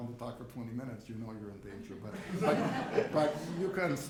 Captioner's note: audience laughs